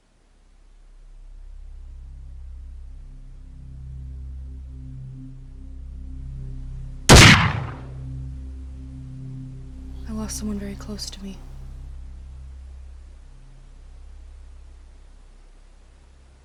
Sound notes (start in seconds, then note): 0.2 suspenseful music; 7.1 gun fires